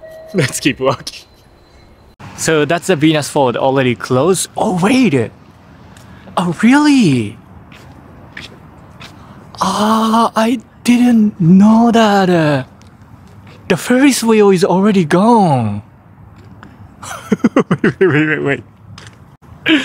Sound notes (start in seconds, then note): 17.0 laughs